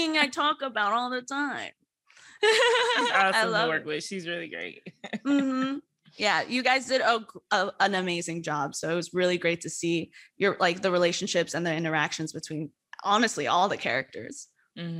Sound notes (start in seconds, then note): 2.4 laughs; 5.5 chuckles